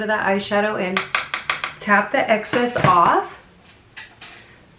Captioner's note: brush knocking